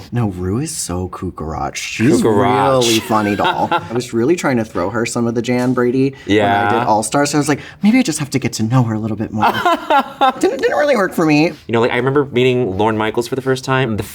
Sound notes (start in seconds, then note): 9.4 Bowen laughs